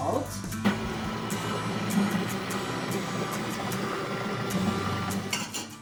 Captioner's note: food processor whirring